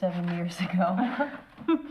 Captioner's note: laughing